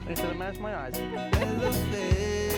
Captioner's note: Tiffany laughs